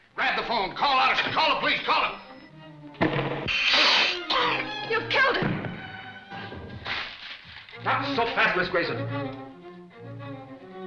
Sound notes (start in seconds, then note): 3.0 gun firing; 3.4 hissing; 3.6 coughing